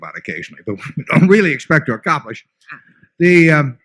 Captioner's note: laughter